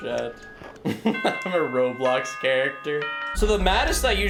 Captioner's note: laughs